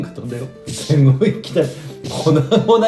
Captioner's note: laughs